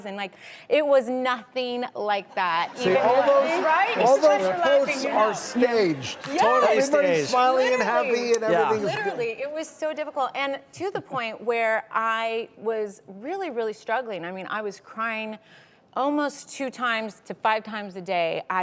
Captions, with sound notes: It was nothing like that. (crowd laughter) All those posts are staged. Everybody's smiley, and happy, and everything's good. Literally, it was so difficult, and to the point where I was really, really struggling. I was crying almost two times to five times a day.